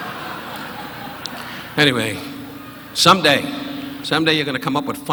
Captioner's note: audience laughing